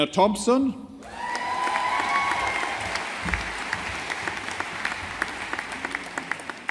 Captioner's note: audience applauding